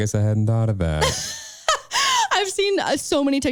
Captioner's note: laughing